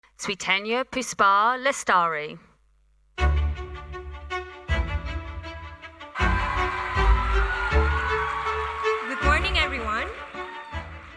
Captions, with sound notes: - Swietenia Puspa Lestari. (lively orchestral music) (audience cheering) - Good morning, everyone.